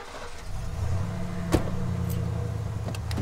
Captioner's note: Engine starts; Van door closes